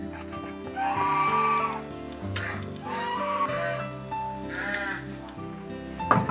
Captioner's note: farm animals cheering for Ziqi